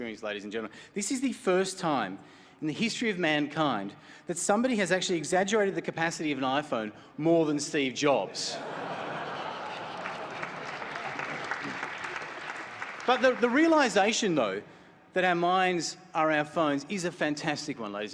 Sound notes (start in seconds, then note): 10.1 laughter; 11.2 applause